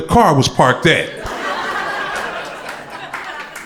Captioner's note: crowd laughter